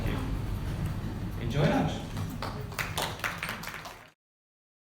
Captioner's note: applause